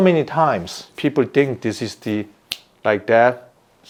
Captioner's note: snaps fingers